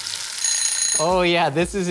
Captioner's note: timer bell ringing